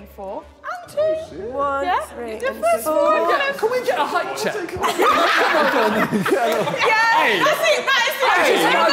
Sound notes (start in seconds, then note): 4.2 all laughing